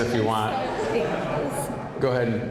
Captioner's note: audience laughing